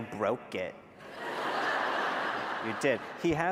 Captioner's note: laughter